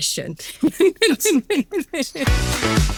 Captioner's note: laughing; upbeat music